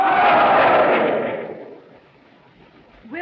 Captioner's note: all cheer